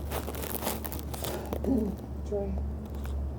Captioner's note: clearing throat